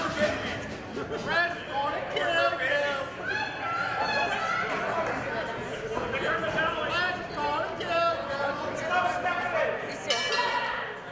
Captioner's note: bell rings